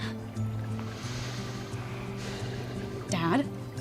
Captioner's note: sighs